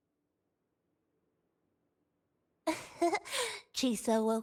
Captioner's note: laughs